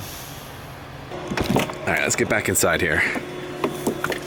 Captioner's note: door click